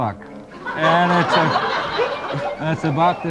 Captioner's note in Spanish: multitud ríe